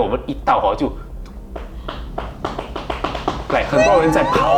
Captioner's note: sound of footsteps